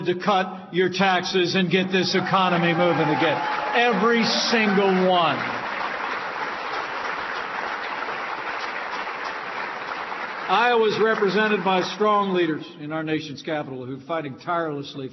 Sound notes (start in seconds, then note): 5.5 applause